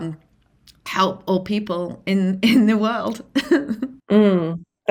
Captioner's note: laughs